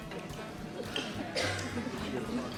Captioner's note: talking softly